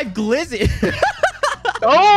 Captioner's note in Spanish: risas